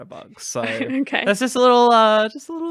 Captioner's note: laughing